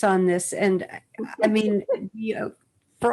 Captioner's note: laughs